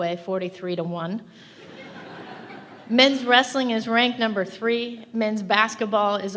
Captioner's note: laughter